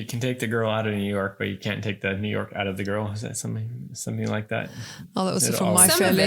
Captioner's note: laughing